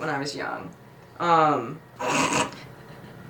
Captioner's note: laughs